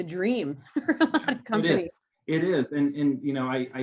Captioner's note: chuckles